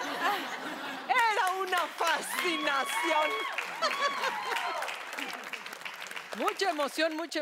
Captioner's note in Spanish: Risas; Risas